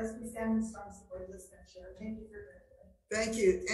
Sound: speaking faintly

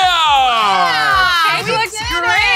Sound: cheering

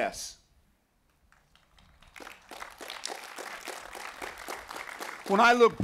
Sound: applause

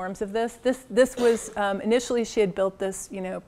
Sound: cough

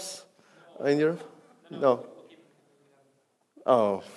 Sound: man speaks faintly

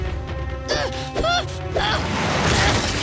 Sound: groaning

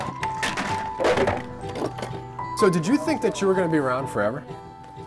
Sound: sounds of shelves being disassembled

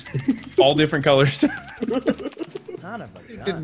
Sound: laugh

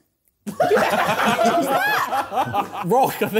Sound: laughing

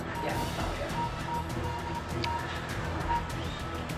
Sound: beeping

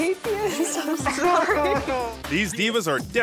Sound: both chuckle

